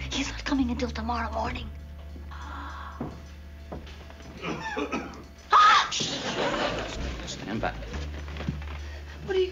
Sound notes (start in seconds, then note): 4.4 cough; 5.4 gasps